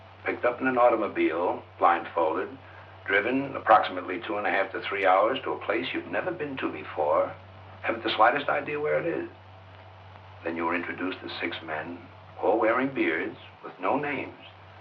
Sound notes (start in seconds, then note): none